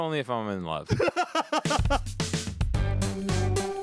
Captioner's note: laughing; upbeat jingle